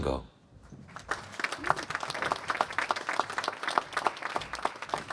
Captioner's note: applause